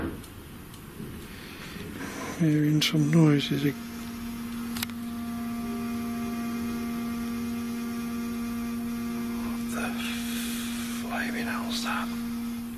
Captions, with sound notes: (loud thumping) I'm hearing some noises... (faint buzzing) What the flaming hell is that?